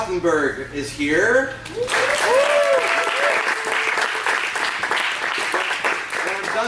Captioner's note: applause